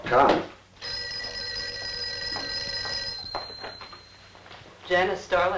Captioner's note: telephone rings